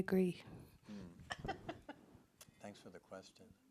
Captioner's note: laughs